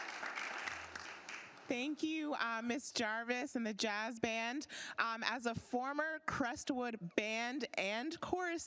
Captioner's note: applause